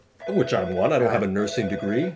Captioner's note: phone ringing